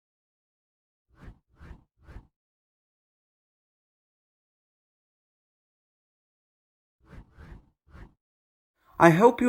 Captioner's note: transition swooshes